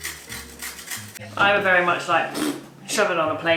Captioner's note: carrot scrapes; blows raspberry